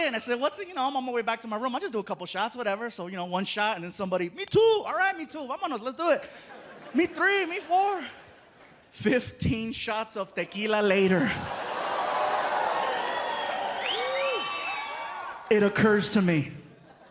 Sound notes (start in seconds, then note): 11.8 audience oohs; 13.8 whistling, cheering